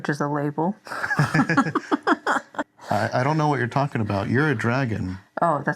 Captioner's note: laughs